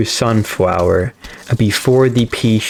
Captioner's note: inhales Oxygen